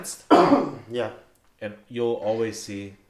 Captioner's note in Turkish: öksürür